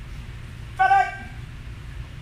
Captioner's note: enthusiastic shouting